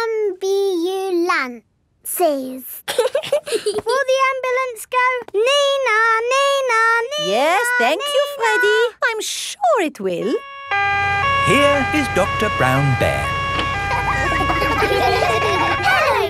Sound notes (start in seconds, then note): 2.8 both giggling; 10.2 siren wailing; 13.1 kids laughing